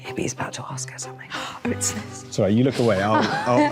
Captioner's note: gasping